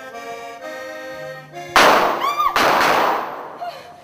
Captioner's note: πυροβολισμοί